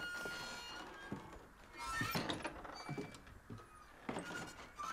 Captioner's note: doors creaking